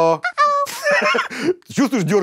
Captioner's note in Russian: смеется